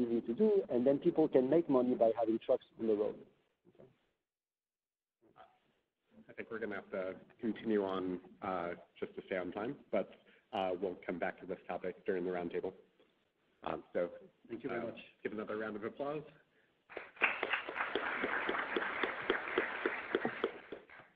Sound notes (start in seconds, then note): 16.9 applause